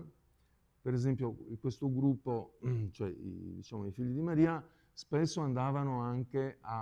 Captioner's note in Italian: schiarire la voce